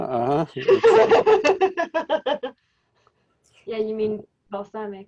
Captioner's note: lady laughs